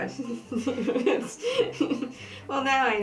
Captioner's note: laughter